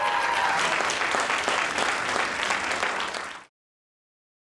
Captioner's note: audience cheers